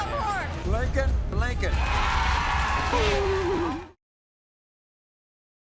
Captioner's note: audience cheers